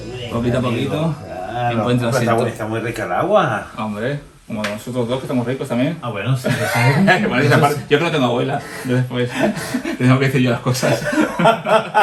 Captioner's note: laughs